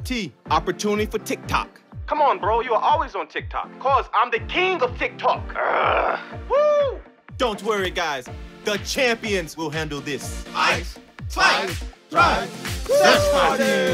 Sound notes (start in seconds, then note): 5.5 groans; 6.4 cheers; 10.2 chants